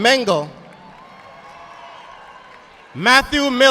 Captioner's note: audience applauding